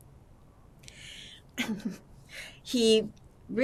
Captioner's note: laughing